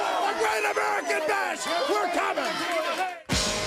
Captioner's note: crowd cheering